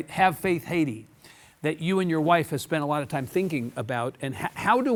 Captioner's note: none